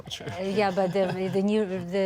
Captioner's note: laughter